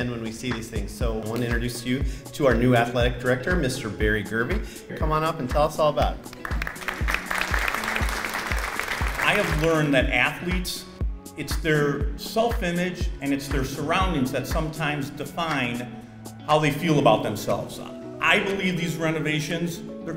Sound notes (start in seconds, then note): 6.2 audience clapping